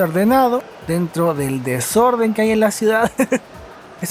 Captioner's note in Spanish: risas